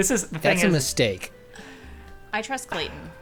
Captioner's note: pat